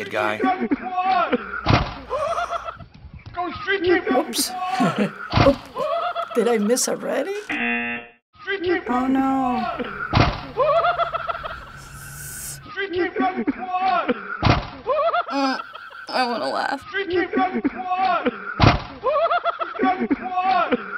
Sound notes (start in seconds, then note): 0.0 in video: laughter offscreen; 2.0 whooping and laughter; 5.0 chuckles; 7.6 buzzer; 8.8 blandly; 10.1 loud thud; 10.5 whooping and laughter; 14.4 loud thud; 15.3 struggling; 18.6 loud thud; 19.0 whooping and laughter